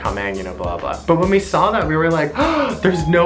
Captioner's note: gasps